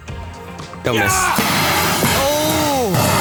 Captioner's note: yells; metal box clangs